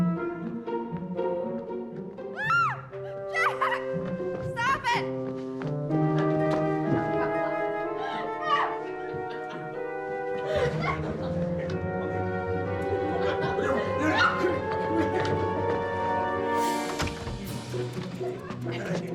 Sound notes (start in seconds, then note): 3.2 woman shrieks playfully; 9.1 laughing